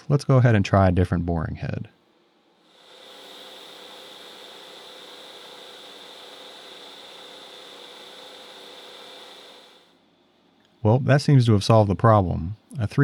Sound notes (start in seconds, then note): 2.7 machine drilling